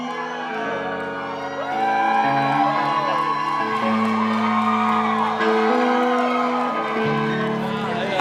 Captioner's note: cheers